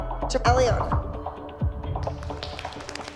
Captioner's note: applause